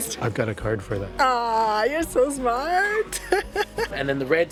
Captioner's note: laughs